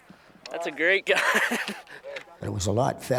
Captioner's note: voiceover; laughs